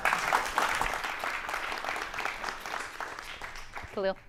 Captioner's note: audience applauding